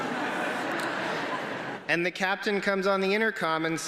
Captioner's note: laughter